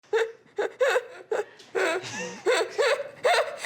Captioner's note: laughing